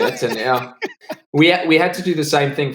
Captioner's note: laughs